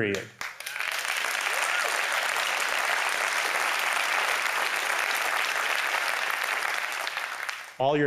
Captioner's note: applause